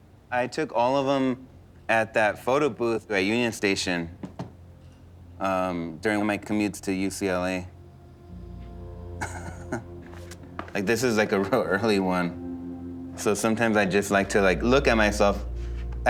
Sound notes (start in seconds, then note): 9.1 chuckling